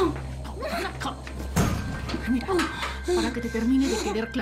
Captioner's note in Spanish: Quejidos